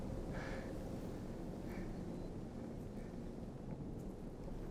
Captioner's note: labored breathing